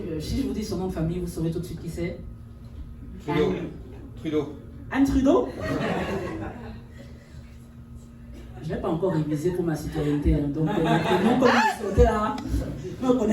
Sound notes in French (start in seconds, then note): 5.5 rires; 10.6 rires